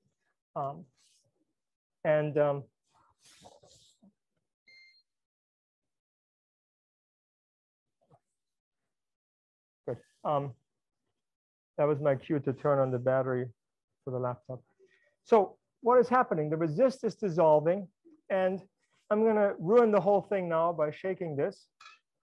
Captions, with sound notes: (computer beeps) Good. That was my cue to turn on the battery for the laptop. So what is happening? The resist is dissolving and I'm gonna ruin the whole thing now by shaking this.